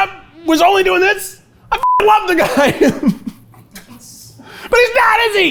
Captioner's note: laughs